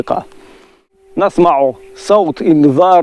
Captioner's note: air alarm sound